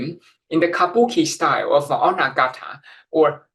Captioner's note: speaking in foreign language